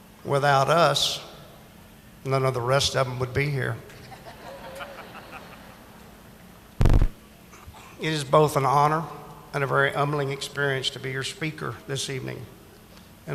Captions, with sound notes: Without us, none of the rest of them would be here. (audience laughing) It is both an honor and a very humbling experience to be your speaker this evening,